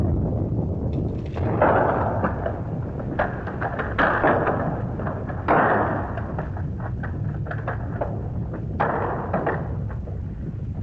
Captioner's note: explosion; rumbling sound & rock clattering